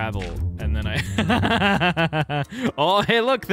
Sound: laughter

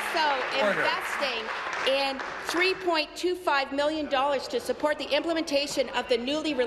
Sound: applause

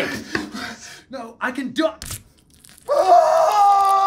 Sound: flesh squelching; York screaming

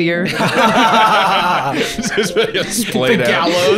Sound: both laughing

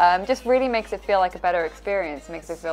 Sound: none

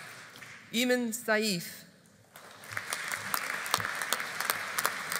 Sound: audience applauding

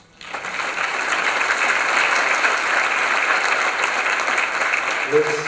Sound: applause

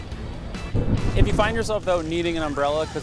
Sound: thunder booming

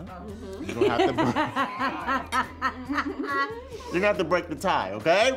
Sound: all laughing

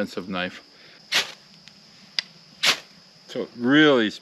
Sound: fire sparking

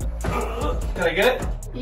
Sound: grunts

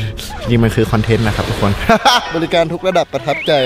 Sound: laughs

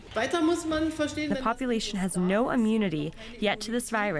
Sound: through translator

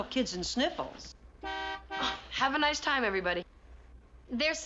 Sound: horn honking

